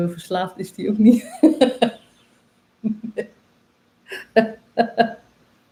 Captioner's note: laughs